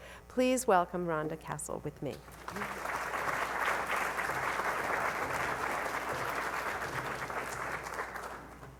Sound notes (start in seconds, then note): 2.2 audience clapping